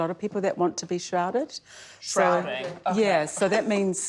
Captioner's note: laughs